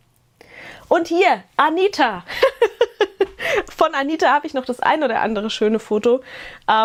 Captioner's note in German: gelächter